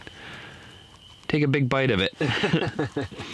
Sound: laughing

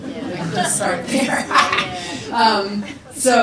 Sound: people laugh; laughs

